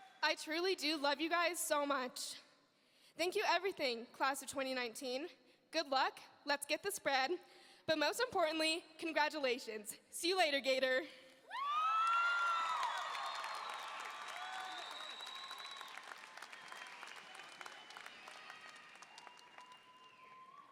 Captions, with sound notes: I truly do love you guys so much. Thank you everything class of 2019. Good luck, let's get the spread, but most importantly congratulations. See you later, gator. (audience cheering) (audience applauding)